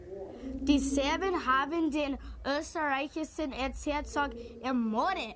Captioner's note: speaks in foreign language